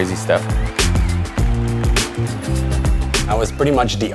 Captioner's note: crowd cheers